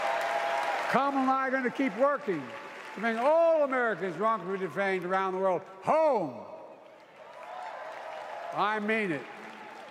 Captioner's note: applause